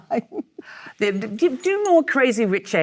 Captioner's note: Michelle laughs